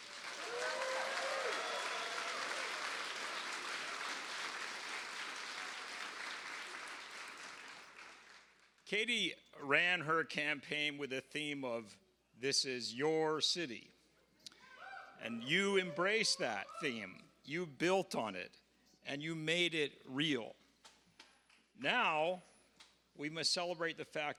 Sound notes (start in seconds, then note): 6.4 cheers and applause